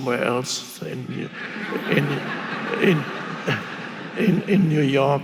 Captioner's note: audience laughing